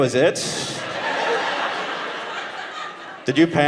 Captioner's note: audience laughing